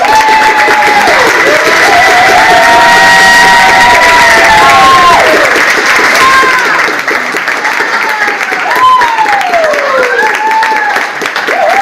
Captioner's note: audience applauds